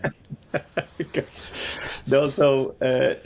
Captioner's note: laughs